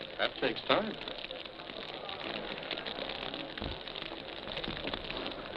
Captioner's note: fire crackling